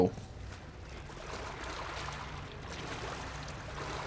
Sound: sloshing in water

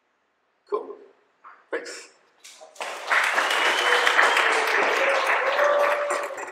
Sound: audience applauding

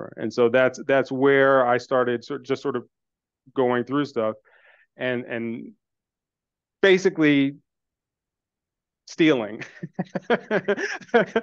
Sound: laughs

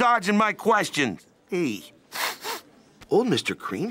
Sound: sniffs

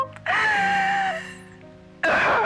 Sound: crying

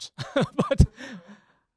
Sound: laugh

